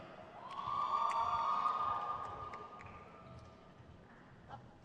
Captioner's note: crowd cheers